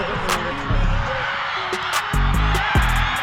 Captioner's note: crowd cheering; upbeat music